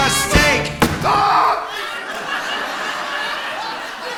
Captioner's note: George gasps